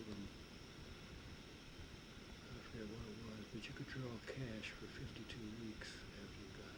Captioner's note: none